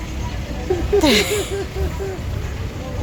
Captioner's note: laughing